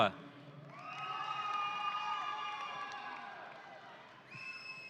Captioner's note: audience cheering